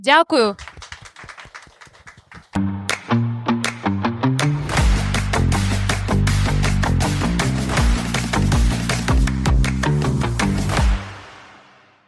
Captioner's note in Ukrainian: оплески